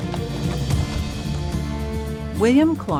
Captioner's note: hooves clacking